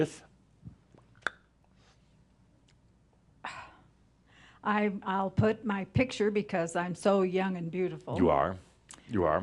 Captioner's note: pausing and then sighs